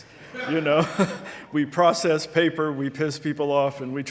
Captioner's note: audience laughing